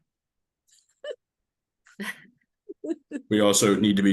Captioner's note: laughs